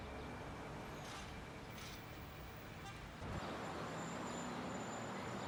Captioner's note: distant city traffic